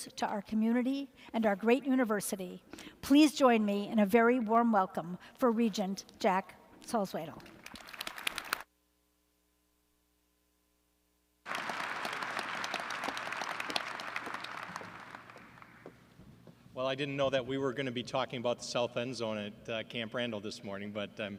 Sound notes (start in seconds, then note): 7.9 applause